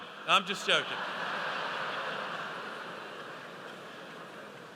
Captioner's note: audience laughs